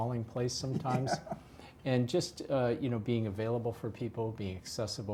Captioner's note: laugh